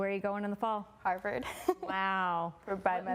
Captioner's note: laughing